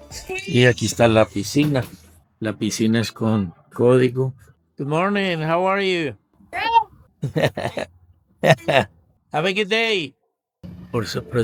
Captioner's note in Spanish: risas